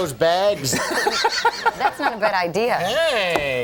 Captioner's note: O'Brien laughing